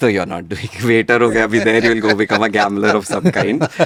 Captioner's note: laughs